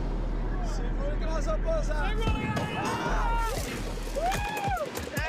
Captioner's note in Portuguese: gritando